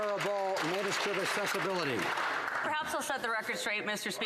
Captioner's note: some Applause